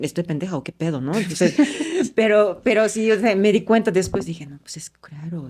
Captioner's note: laughs